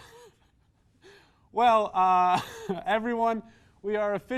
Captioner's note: small laugh